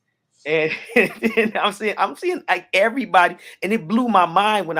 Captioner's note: chuckles